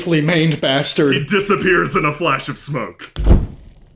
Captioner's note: poof